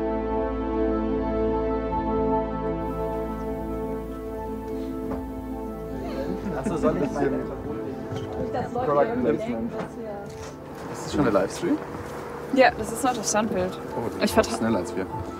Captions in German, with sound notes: *Stimmengemurmel* Ist das schon der Live-Stream? Ja. Das ist nur das Standbild. - Das ist schneller als wir.